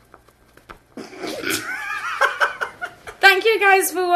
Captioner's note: laughing